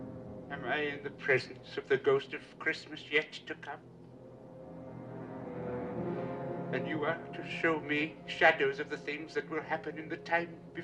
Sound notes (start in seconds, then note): none